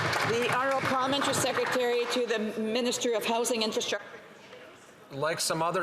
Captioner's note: applause